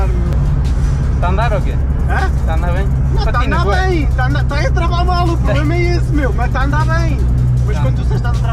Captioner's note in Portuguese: laughing